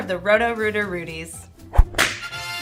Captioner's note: whip cracking sound